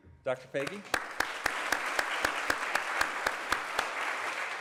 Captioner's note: applause